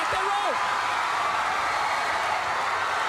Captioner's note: crowd cheering